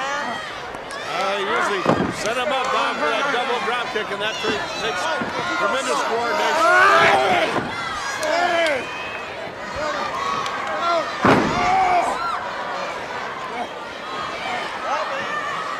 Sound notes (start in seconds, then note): 0.0 crowd cheering; 0.6 crowd chatter; 7.5 crowd chatter; 11.7 crowd cheering